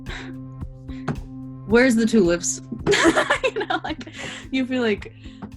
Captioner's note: laughs